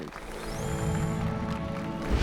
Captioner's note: applause and cheers